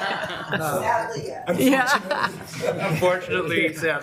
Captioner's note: laughs